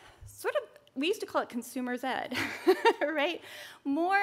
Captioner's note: chuckles